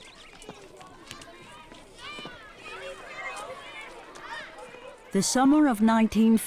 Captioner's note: children laughing and chattering